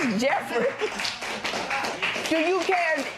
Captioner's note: applause